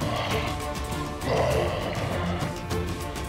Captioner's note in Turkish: Şaman bağırıyor